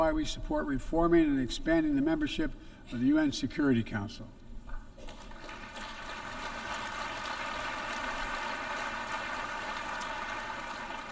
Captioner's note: applause